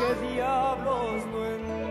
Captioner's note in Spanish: llanto de bebé